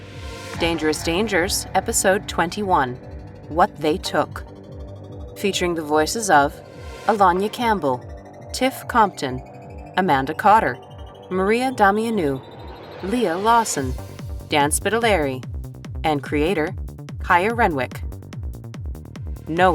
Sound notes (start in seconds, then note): none